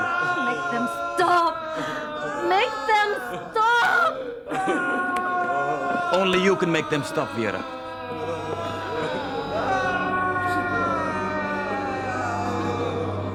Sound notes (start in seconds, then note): 8.6 moaning and crying of the dead